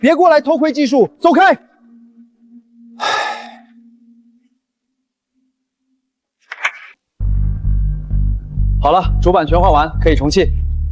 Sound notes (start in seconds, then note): 3.0 sigh